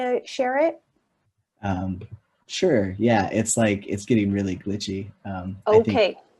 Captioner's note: laughs